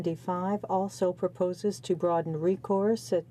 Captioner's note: speaking in French